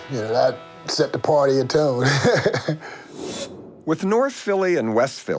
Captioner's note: chuckles